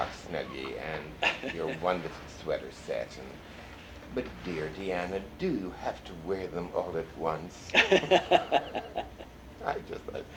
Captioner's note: laughter